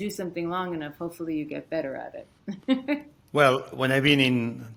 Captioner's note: chuckles